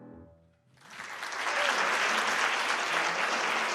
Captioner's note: applause